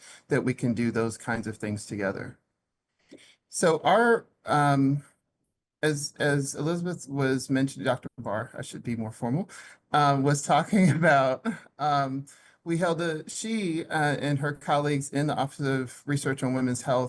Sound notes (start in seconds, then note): 10.6 laughs